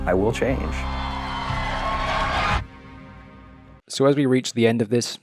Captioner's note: audience cheering and applauding